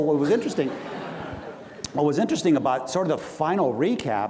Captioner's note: audience laughs